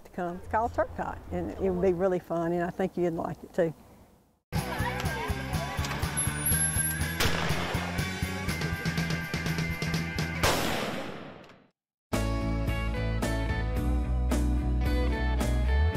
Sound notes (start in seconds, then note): 4.6 upbeat music; 4.9 gunshots; 11.1 upbeat music